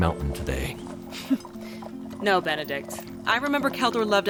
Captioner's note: laugh